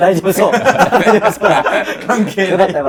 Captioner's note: laughing